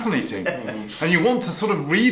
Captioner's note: laughing